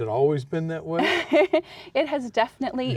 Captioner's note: laughs